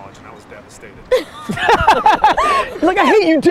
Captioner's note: all laughing